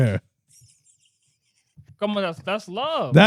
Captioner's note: birds Chirping